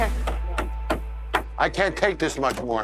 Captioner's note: hand tapping